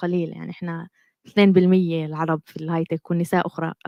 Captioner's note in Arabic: لغة أجنبية